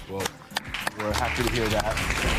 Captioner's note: audience applause